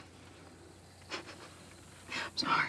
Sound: Natalie laughs softly

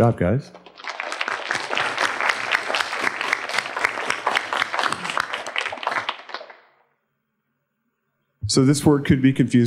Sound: applause

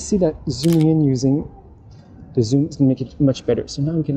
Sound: camera clicking

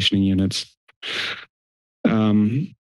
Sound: inhales

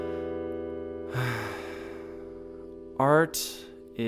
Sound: sighing

